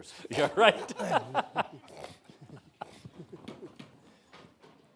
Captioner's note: presenters chuckling